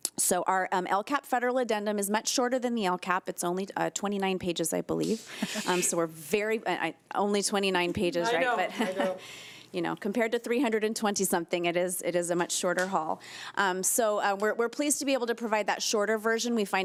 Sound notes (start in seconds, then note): 8.3 chuckling